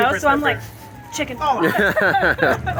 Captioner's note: sniffs; laughing